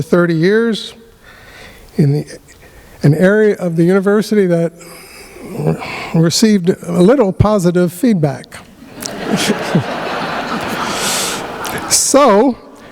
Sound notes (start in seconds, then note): 8.8 laughter